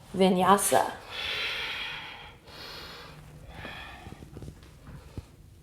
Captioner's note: deep breathing